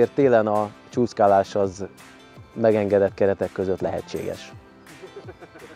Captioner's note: laughing